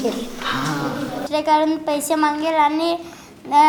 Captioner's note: stammering